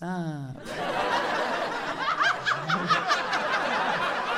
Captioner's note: audience laughing